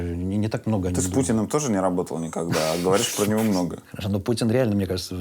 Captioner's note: laughs